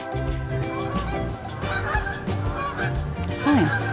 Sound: birds chirping

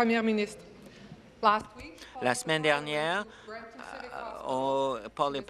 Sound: speaking in French

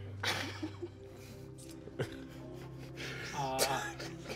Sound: all giggling

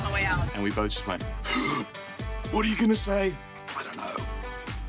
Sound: gasps

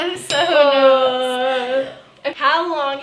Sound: laughing; glass tinkling; nervous moan

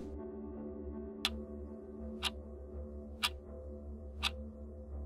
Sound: air whooshing; clock ticking

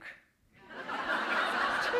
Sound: laughter

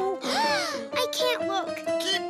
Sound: gasps

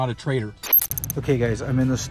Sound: static

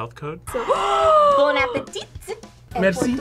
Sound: both gasp

